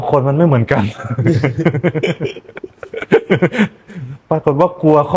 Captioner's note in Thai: เสียงหัวเราะ